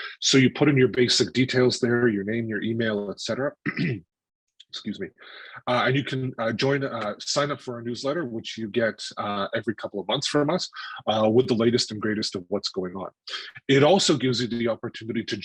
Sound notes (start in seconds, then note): 3.6 clears throat